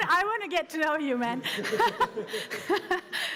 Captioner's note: laughter